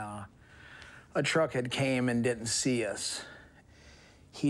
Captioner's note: inhales